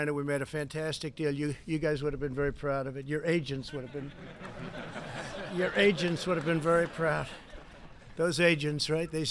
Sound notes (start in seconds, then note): 3.6 laughter